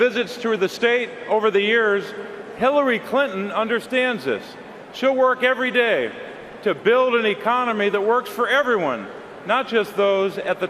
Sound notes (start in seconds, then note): none